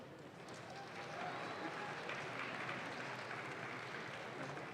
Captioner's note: audience claps